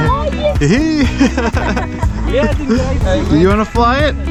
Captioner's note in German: Lachen